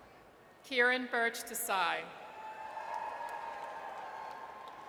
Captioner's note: audience cheers